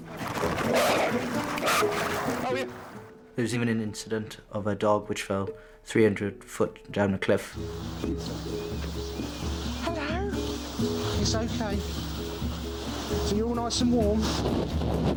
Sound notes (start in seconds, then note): 0.1 dogs snorting; 0.2 water trickles; 7.5 birds chirping; 7.6 pensive music